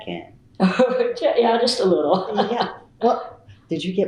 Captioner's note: laughs